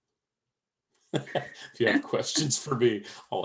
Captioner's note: laughs